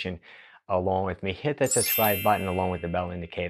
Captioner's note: bell chiming